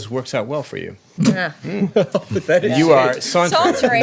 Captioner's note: laughter